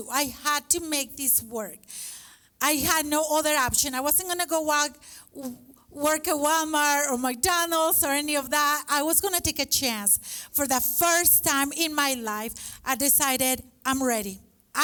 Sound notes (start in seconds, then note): none